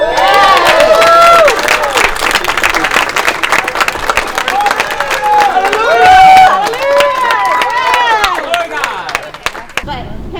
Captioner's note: crowd Cheering